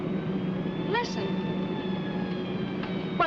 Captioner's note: sirens wailing